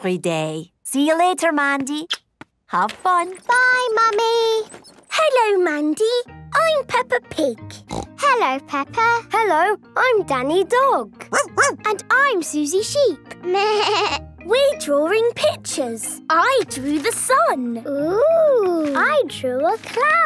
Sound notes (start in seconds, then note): 7.8 snorting; 11.3 barking; 13.1 bleating